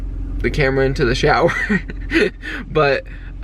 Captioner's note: chuckles